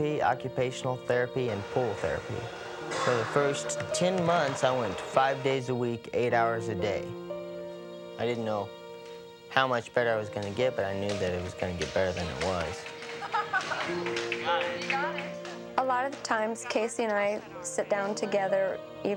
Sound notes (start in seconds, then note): 13.1 laughing